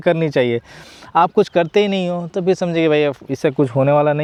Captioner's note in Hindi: नाक से की जाने वाली आवाज़